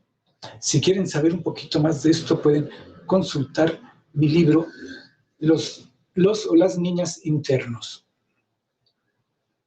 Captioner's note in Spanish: resoplido